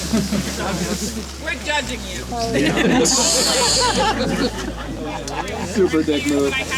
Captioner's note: laughs